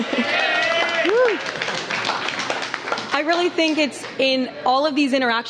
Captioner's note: applause